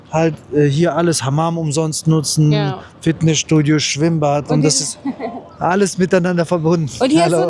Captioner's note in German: gelächter